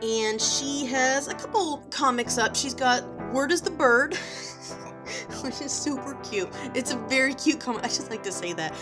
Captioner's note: giggles